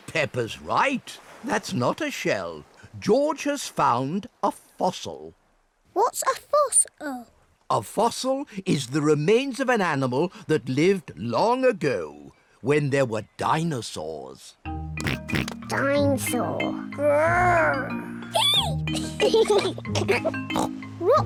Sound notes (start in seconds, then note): 15.0 oinks; 17.4 roars; 18.3 both giggle